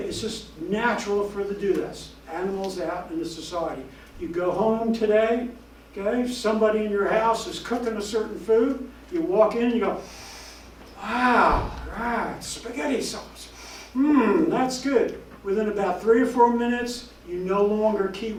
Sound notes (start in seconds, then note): 13.5 inhale